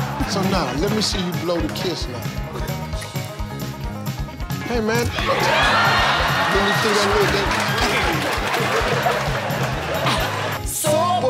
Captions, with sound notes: - So now, let me see you blow the kiss now. Hey man. (crowd cheering) Let me (in foreign language).